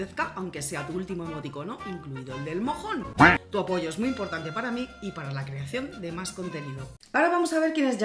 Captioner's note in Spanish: sonido pato